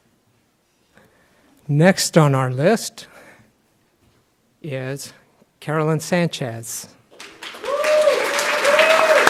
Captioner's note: clapping